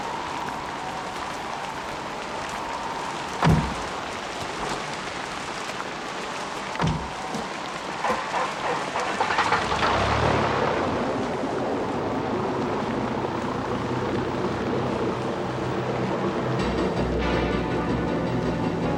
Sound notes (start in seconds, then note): 8.0 engine whirring; 16.5 dramatic music